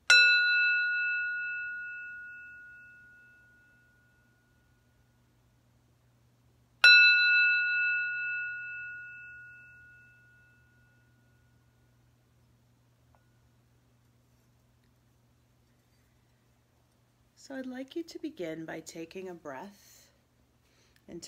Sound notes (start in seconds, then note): 0.1 ringing; 6.8 ringing